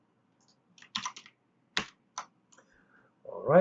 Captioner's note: keyboard clicks